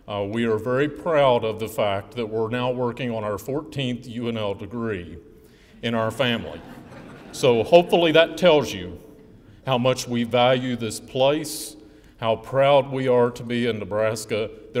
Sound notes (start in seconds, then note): 6.5 laughing